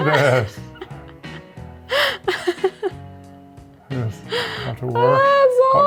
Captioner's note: laughs